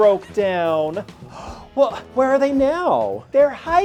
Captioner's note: gasps